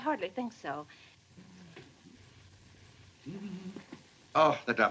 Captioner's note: humming